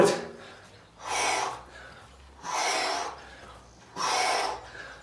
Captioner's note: exhales sharply